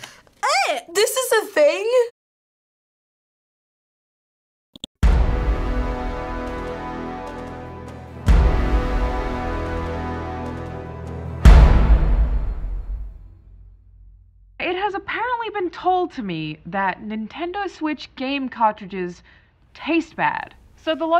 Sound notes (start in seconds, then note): 4.3 mouse clicks; 5.1 dramatic chord; 8.2 dramatic chord; 11.4 dramatic chord